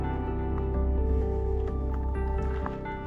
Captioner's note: none